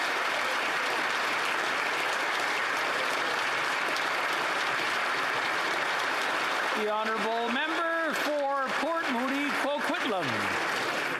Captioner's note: some Applause